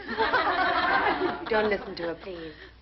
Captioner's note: girls laughing